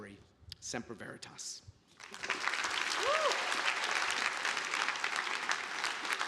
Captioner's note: audience applauding